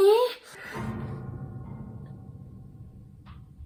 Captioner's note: weird ghost sound